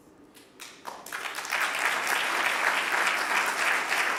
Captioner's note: audience applauding